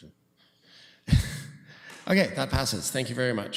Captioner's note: chuckles